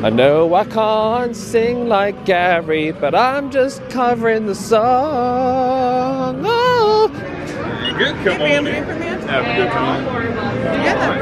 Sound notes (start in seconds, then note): 6.1 vocalizing; 7.7 beep